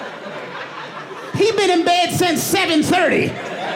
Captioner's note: audience laughing